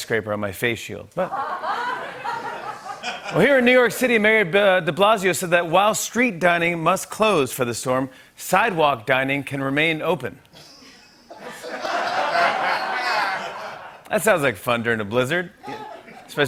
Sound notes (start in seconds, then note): 1.2 laughter; 10.6 laughter